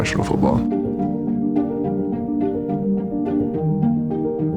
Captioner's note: crowd cheering